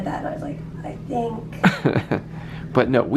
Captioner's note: chuckles